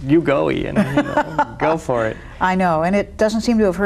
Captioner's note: laughs